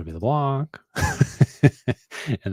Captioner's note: laughs